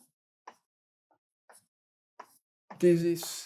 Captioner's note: chalk taps